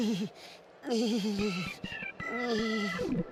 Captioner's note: whimpering